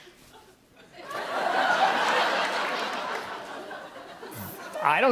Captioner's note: laughter